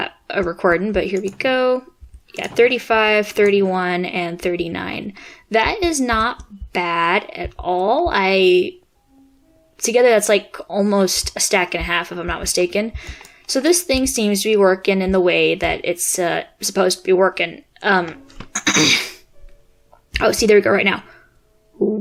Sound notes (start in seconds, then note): 18.5 clears throat